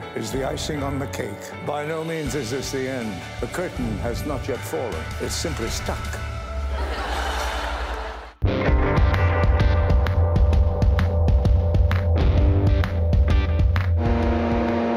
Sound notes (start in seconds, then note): 6.7 audience laughter; 14.3 machine whirring